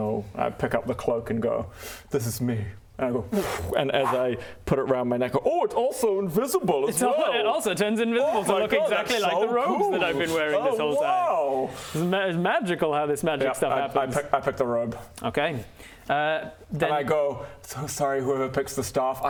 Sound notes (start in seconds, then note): 3.3 whoosh